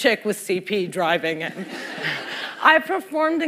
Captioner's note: laughter